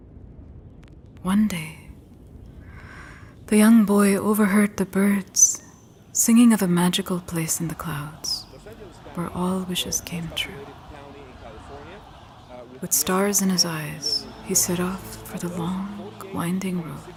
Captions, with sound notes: One day, the young boy overheard the birds singing of a magical place in the clouds where all wishes came true. (distant news reporter speaking) With stars in his eyes, he set off for the long winding road